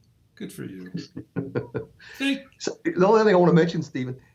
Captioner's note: chuckles